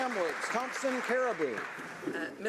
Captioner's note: applause